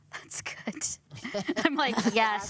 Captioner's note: chuckles